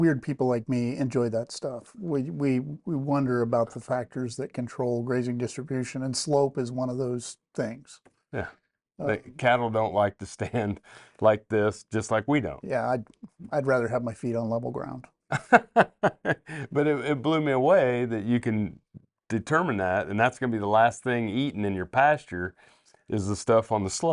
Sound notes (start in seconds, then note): 15.3 laughs